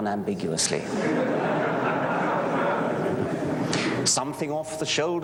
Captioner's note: laughter